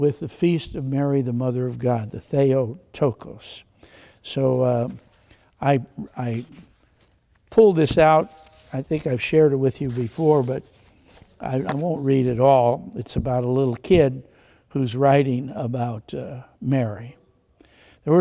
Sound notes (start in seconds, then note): none